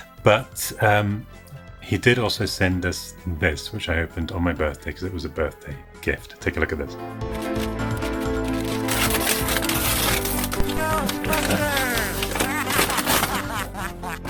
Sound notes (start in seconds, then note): 9.1 paper whooshing